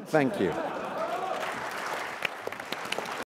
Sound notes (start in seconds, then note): 0.3 laughs; 2.1 applause